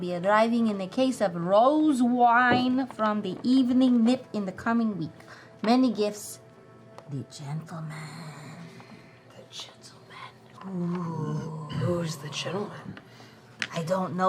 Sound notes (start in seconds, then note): 9.1 whispering